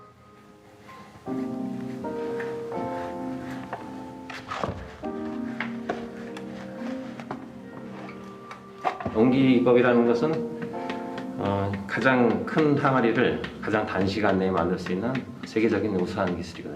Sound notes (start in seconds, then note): 1.3 calm music; 9.2 speaking in Korean